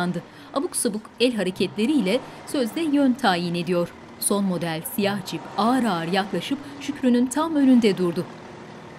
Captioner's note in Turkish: Nefes sesleri; Araba motor sesi